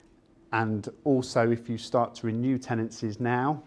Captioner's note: none